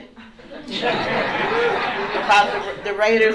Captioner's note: laughter